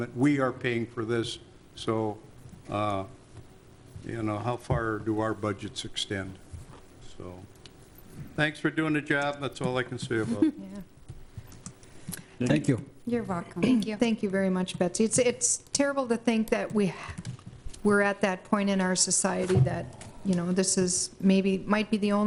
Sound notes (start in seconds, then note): 10.2 chuckles